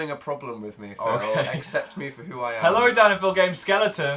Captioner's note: laughs